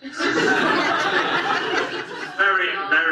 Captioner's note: audience laughs